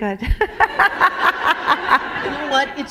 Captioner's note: laughter